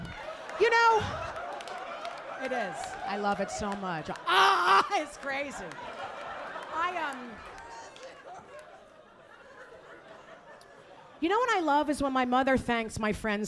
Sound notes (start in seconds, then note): 6.3 audience laughing